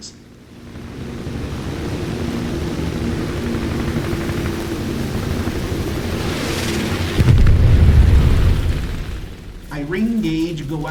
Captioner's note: engines, machine guns, flying sounds